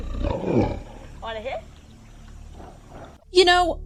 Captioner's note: roaring